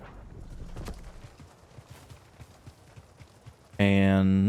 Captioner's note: gunshots